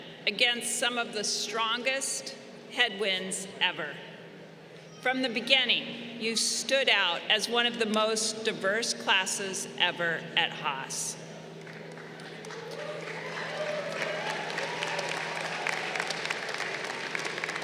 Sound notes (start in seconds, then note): 11.5 crowd applauding